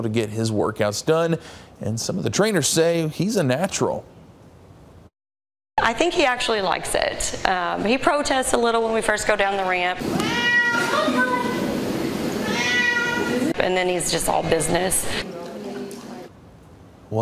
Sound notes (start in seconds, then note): 10.1 meow